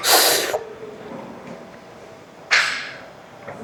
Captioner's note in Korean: 콧방귀